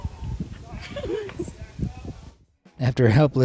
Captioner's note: bystander laughing